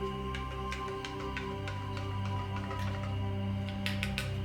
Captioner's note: spoon stirring